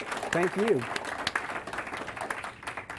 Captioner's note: applause